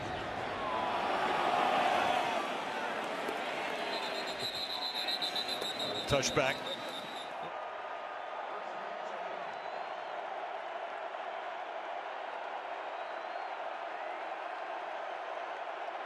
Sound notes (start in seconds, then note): 3.8 whistle; 8.4 crowd cheering